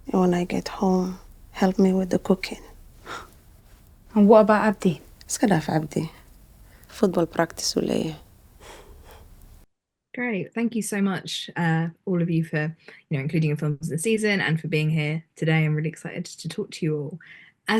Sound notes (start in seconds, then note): 5.3 speaks foreign language